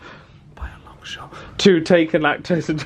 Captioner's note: whispers